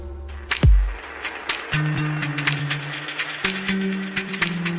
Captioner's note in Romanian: Aplauze